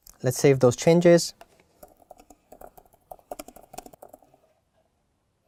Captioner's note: keyboard clicking